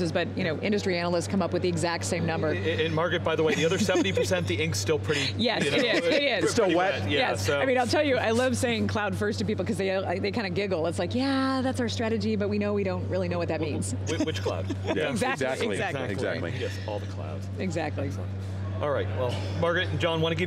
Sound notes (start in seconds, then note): 5.0 laughing